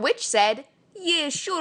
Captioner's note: awful, probably offensive Russian accent